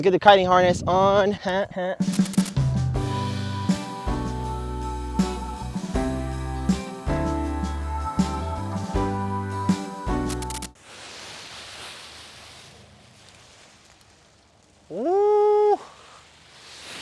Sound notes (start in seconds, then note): 2.1 upbeat music; 11.0 air whooshing